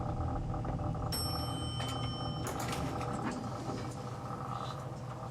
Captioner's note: elevator dinging